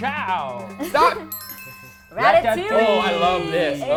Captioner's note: bell chiming